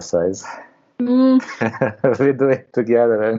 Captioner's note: laughs